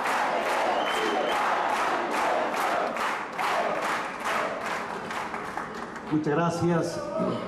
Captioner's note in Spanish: Cantos, aplausos